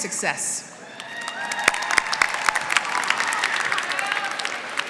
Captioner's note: applause